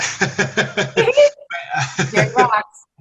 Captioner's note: laughs; chuckles